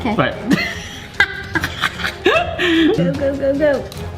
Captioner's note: both laugh